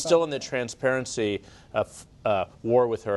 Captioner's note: laughs